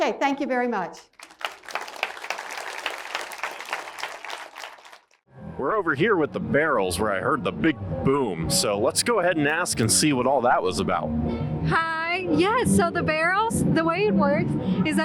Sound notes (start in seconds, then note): 1.1 crowd applause